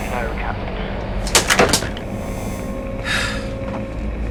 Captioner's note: thwack; exhale